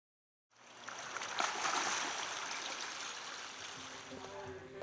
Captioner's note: water splashing